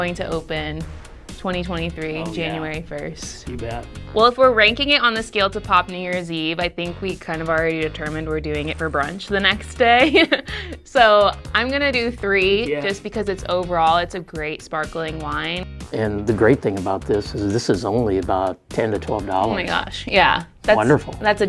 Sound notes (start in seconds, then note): 10.0 laughing